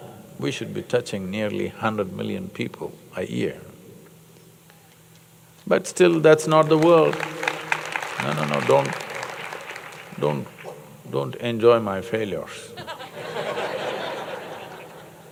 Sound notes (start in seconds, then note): 6.6 applause; 12.7 laughter